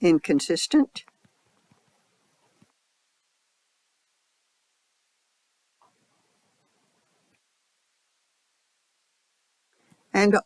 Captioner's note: 10-second silence